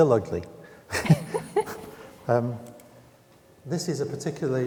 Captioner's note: both laughing